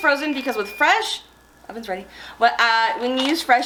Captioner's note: oven beeping